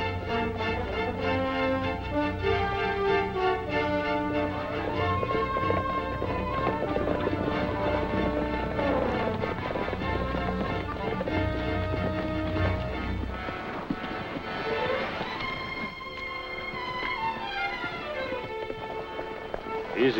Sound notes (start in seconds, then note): 4.6 galloping